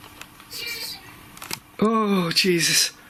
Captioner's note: giggling